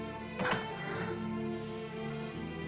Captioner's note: door closes; sentimental music